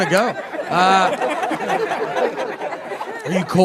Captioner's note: audience laughing